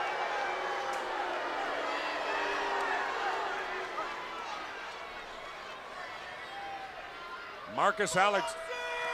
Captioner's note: crowd cheering